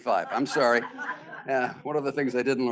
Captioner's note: students laughing